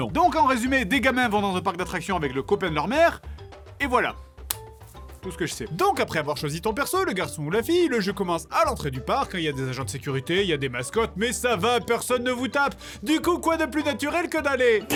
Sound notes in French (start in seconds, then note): none